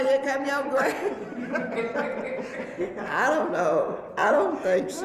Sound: laughs

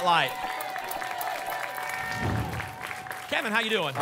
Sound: applause and cheering

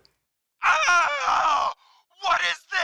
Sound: man screaming

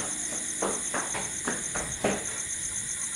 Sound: footsteps

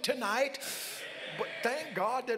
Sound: congregants call out

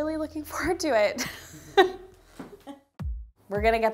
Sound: giggling

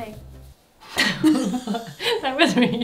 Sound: both laughing

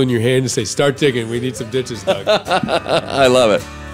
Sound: laughing

